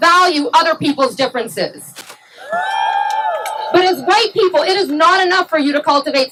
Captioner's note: cheering